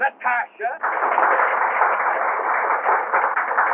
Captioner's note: applause